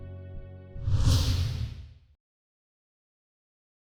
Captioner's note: logo whooshes